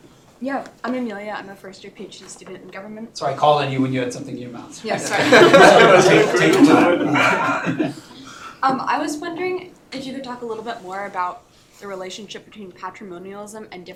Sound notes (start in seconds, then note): 5.0 laughter